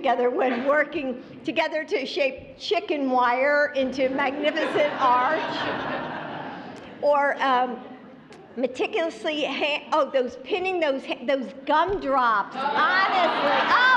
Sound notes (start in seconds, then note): 4.1 laughter